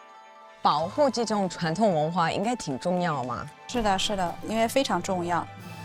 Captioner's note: speaking foreign language